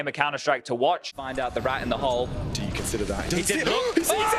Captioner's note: casting